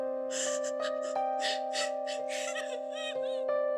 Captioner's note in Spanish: Sollozos